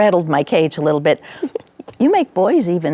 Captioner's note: chuckling